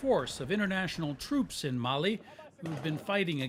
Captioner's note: gunshots